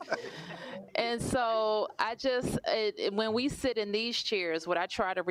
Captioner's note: laughter